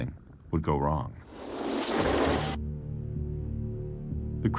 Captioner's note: scratching, dark sounds